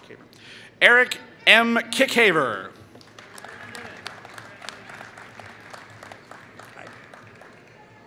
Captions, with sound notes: Eric M. Kickaver [Applause]